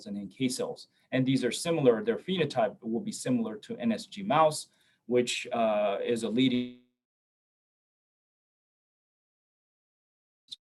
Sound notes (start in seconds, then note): 6.6 audio cuts out briefly